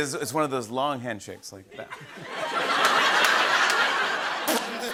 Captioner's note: laughter